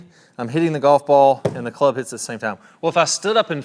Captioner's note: club thuds